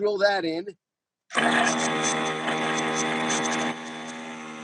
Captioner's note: drilling